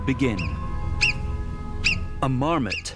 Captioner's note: marmot calls